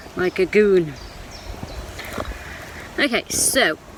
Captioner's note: birds chirping